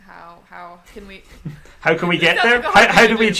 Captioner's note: laughs